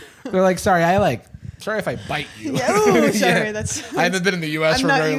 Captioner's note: laughs